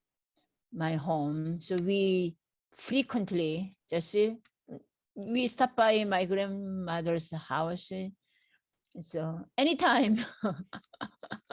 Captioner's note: laughs